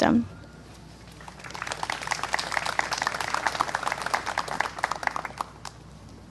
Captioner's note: clapping